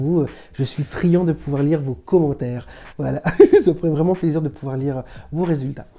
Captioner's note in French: rires